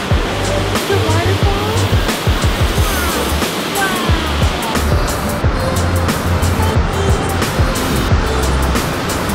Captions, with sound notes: - See the waterfall? - Wow. (ambient music) (water rushing)